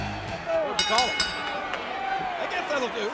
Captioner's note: bell rings